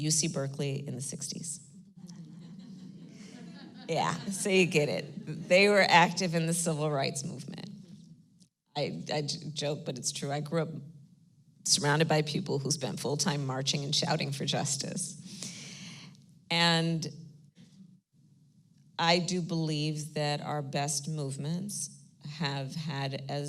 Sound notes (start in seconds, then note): 2.0 laughter